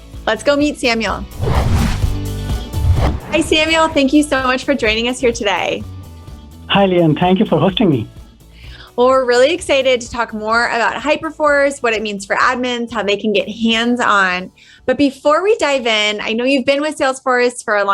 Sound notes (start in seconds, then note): 1.3 air whooshing; 2.8 upbeat music